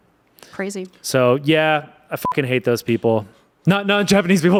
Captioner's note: beep